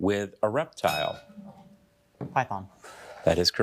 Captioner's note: bell dinging